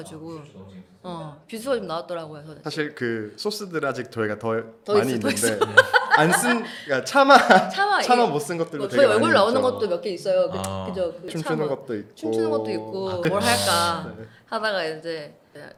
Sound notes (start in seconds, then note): 5.5 ha ha